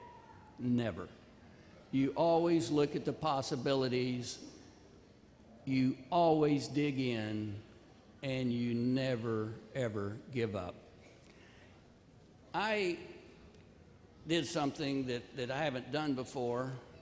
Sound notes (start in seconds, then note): none